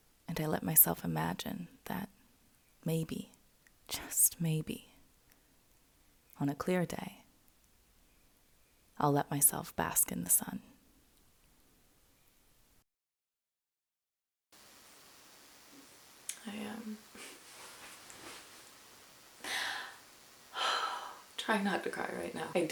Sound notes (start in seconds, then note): 16.2 clicks tongue; 17.1 laughs to stifle tears; 19.4 sighs deeply